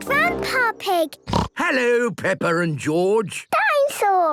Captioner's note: snorts